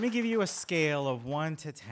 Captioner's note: applause